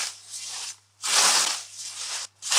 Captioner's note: none